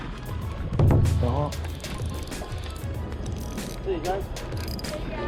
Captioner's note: gear rattle